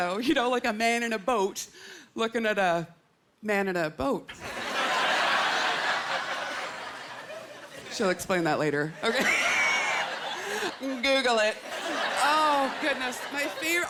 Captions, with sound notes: like a man in a boat looking at a man in a boat. (Laughter) She'll explain that later. Okay? Google it. Oh, goodness. My favourite--